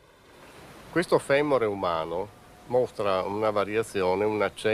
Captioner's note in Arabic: الصوت المنطوق باللغة الإيطالية